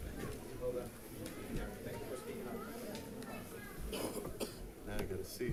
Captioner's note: audience chattering